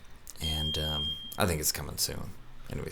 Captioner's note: beep